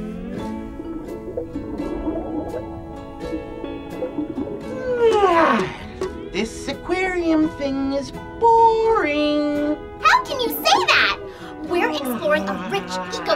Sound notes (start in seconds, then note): 4.6 yawns